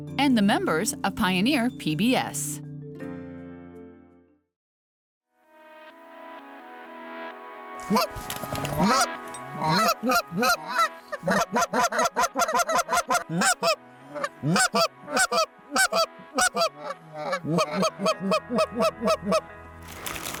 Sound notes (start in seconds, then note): 5.7 light music; 9.5 birds quacking